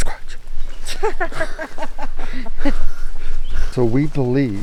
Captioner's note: person laughing